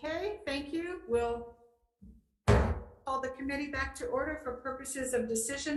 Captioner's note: mullet pounding